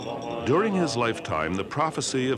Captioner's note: bells ring